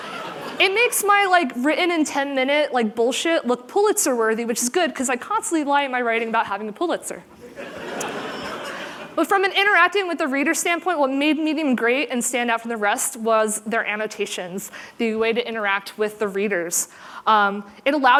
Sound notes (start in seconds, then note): 7.4 laughter